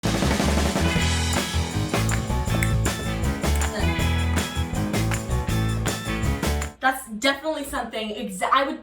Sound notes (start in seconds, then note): 0.1 energetic music; 1.2 fingers snapping